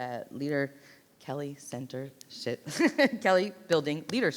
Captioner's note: laughs